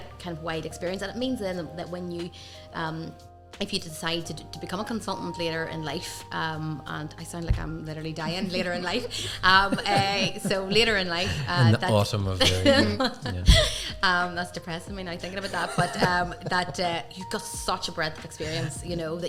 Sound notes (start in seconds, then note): 9.1 group laughing; 12.4 participant laughs